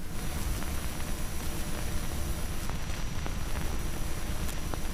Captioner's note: static hissing